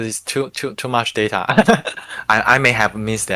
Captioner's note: laughing